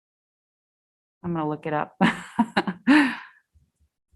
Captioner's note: laughs